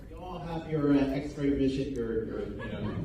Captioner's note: laughter